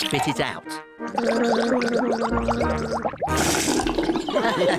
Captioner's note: gargles; all laugh